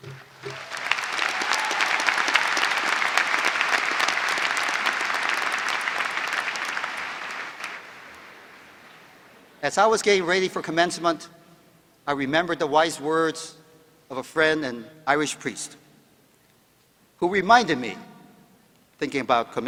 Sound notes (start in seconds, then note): 4.3 applause